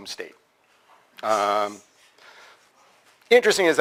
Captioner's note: pause